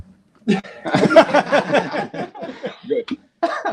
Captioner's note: laughing